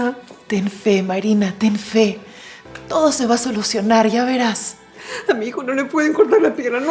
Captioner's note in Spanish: risas